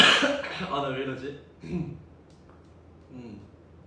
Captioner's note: clears throat